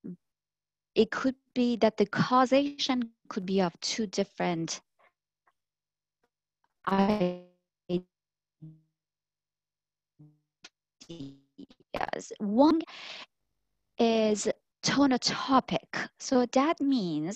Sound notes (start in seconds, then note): 6.1 audio fading